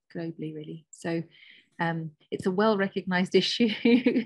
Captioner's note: chuckles